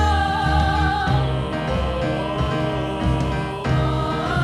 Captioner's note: high voices singing; deep voices; high voices